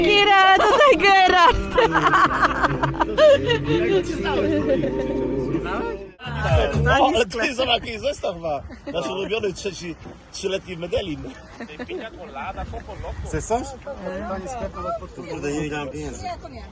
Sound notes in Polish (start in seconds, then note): 0.6 śmiech